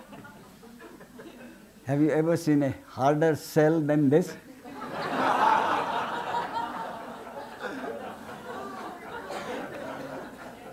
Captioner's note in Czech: smích